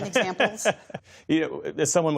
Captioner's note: laughter